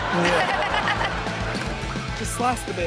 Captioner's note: everyone laughs